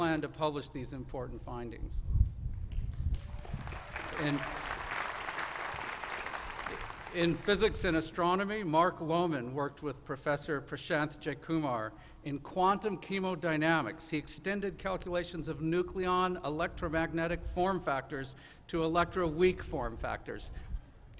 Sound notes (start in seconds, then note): 8.5 applause